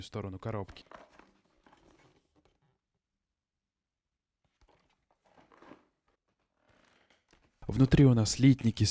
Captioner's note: awkward silence